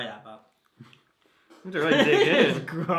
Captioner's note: both laugh